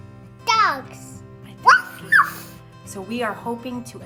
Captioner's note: barks